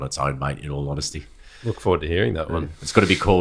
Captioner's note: laughs